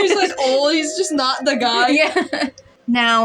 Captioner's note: laugh